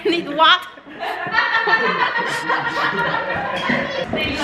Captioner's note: laughed out so loud